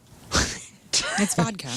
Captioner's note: laugh